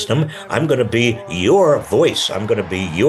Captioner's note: audience cheering